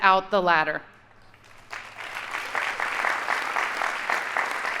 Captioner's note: audience applauding